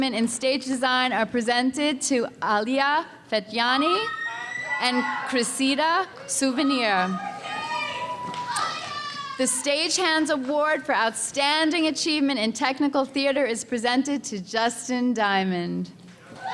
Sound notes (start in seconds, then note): 3.7 audience member screams; 6.6 audience member shouts to recipients; 16.3 audience cheering